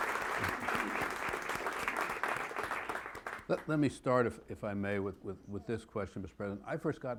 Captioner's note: applause